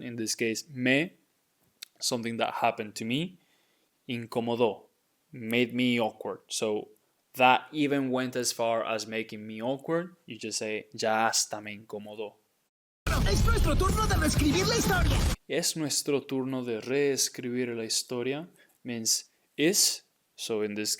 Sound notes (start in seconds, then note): 0.7 speaking in Spanish; 10.8 speaking in Spanish; 13.3 speaking in Spanish